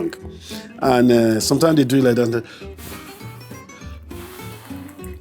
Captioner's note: blowing